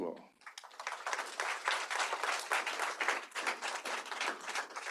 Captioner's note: applause